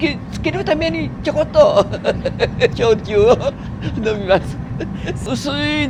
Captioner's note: laugh